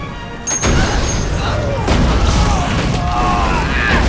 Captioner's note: screaming